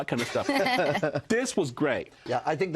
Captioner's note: laughter